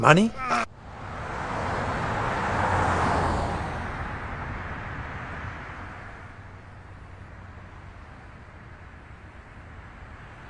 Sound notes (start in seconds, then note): 1.3 traffic rumbling quietly